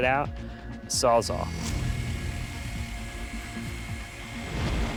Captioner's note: sawing